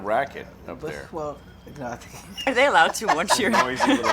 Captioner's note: laughs